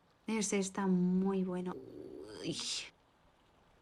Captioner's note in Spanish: Sonidos de la hambre